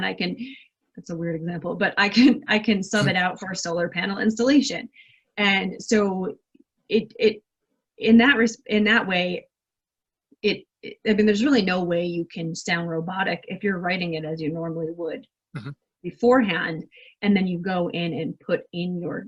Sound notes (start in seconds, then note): 2.2 laughs